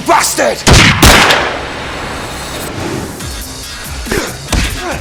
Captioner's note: guns blasting; upbeat music; Andy grunting; elbow pounding